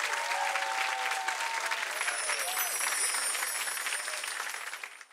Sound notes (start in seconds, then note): 1.9 wind chimes chiming